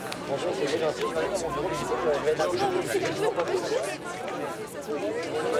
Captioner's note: people speaking in foreign language